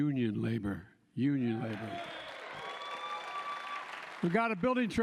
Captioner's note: applause